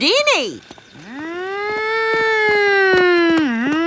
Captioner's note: man imitating fire engine siren